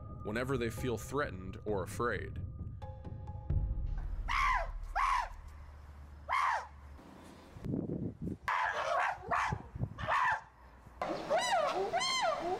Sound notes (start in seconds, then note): 4.2 chimpanzees screeching